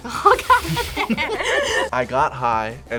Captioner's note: both laugh